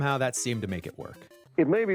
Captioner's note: soundbite of archived recording